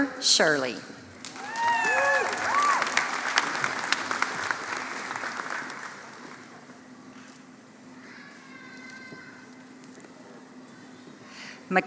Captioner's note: applause